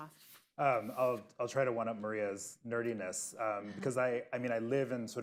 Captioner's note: laughter